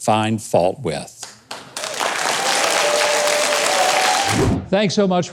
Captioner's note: audience cheering